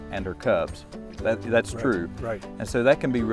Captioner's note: air whooshing